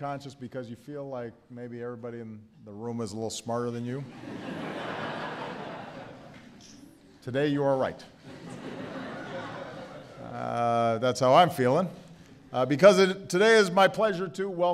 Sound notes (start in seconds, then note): 4.0 laughter; 9.2 laughter